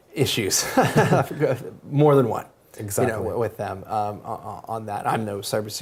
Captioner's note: laugh